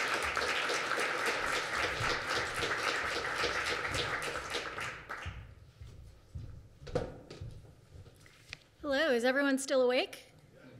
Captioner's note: applause